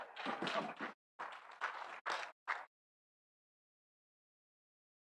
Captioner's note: audience laughing; audience applauding